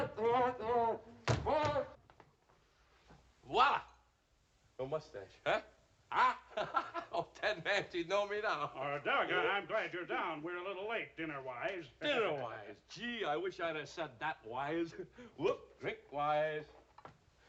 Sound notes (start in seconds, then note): 6.1 giggling